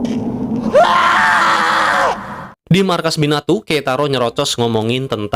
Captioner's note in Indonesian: berteriak